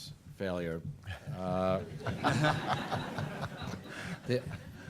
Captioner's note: laughter